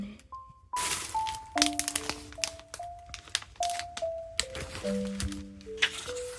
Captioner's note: vinyl sound